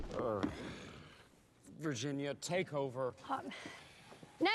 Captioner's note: sighs